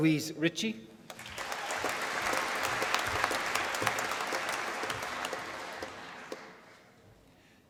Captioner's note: applause